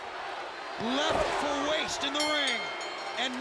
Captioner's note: bell ringing